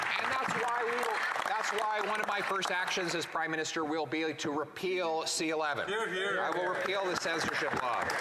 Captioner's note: applause